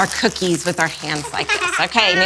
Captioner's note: laughs